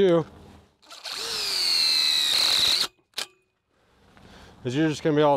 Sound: drill squealing

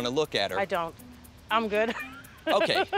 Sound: chuckles

